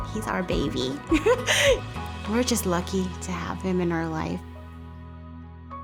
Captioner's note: laughs